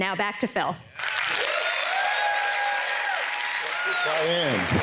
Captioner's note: applause